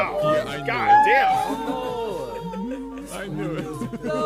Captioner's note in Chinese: 禰豆子哭哭